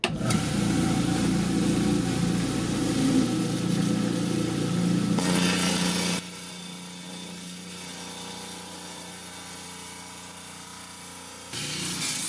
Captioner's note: saw cutting